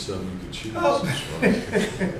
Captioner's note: laughs